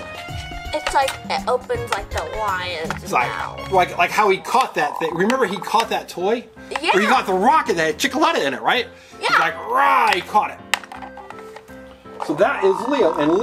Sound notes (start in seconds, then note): 2.6 assistant roars; 12.4 assistant roars; 12.5 roar